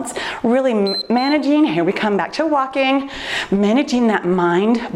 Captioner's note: timer beeps